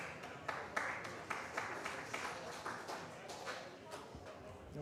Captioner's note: applause